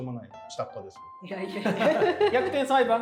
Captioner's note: laughing